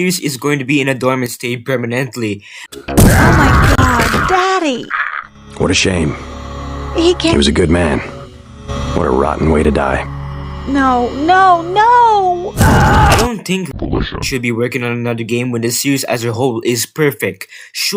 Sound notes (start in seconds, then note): 2.9 bang; 3.0 screams of a dying man; 12.6 screams clearly not coming from a woman